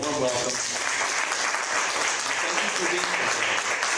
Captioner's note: applause